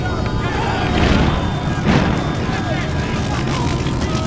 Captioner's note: fire crackles